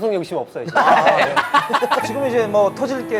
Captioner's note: laughing